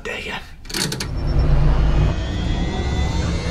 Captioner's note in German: Aufladende Geräusche